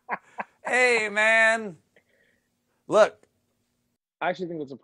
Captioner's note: laughter